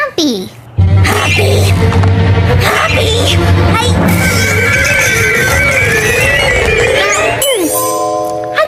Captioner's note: growling dramatically